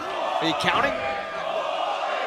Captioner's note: fans chanting